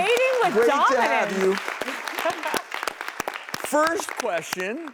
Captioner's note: applause